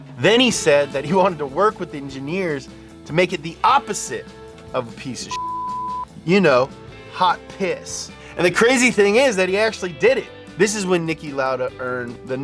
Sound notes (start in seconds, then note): 5.3 beep